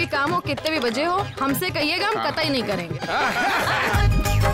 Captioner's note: All laughs